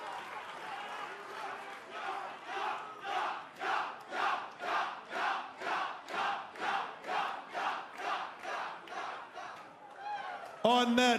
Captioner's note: fans chanting